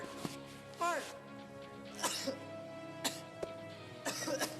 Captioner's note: coughs